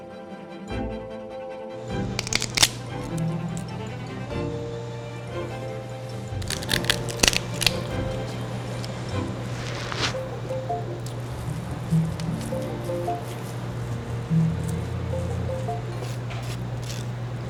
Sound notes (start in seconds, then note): 0.3 energetic cheerful music; 2.2 shell cracking; 3.4 energetic cheerful music; 6.4 shell cracking